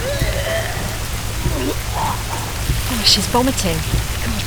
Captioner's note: grunts